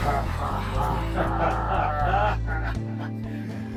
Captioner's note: both men laugh